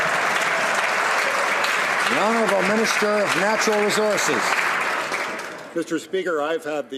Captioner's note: some Applause